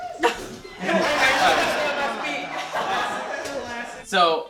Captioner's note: laughter